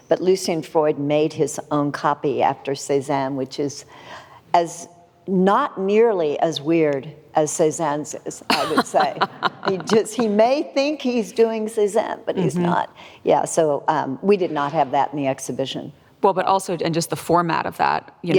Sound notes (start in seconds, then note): 8.4 laughs